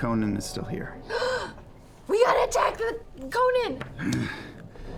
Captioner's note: gasps